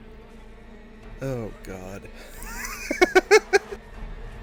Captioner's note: giggle